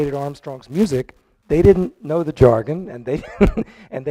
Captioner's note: chuckles